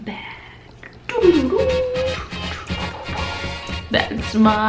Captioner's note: ridiculous sound effects